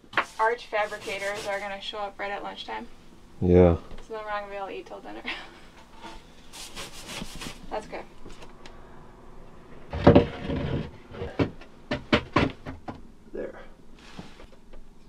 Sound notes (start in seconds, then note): 5.2 chuckles; 11.9 banging